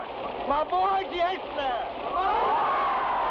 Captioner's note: man speaking in Tagalog; people shout in Tagalog